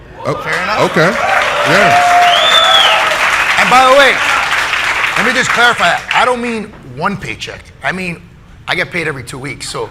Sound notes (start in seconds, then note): 0.4 audience applauding